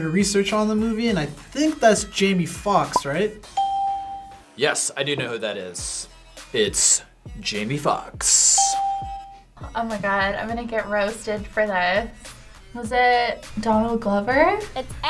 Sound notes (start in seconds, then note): 3.6 bell rings; 8.6 bell rings